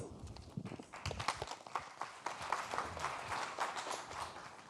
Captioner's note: audience applauding